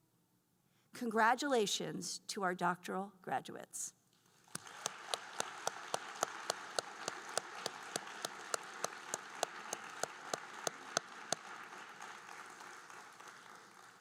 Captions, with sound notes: Congratulations to our doctoral graduates. (group applauding)